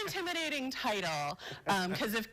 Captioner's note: laughter